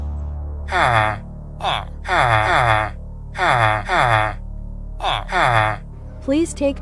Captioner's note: villager noises